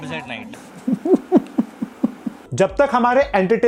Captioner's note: sarcastic Laugh